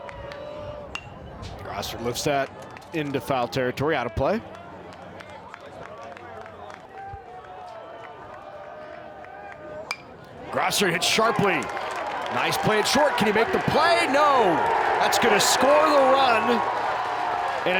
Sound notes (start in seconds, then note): 1.2 bat dings; 9.8 bat dinks; 16.4 fans cheering